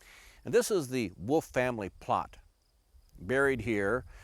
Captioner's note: none